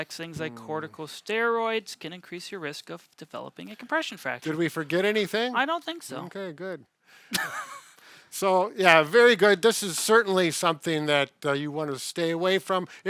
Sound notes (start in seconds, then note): 7.3 laughs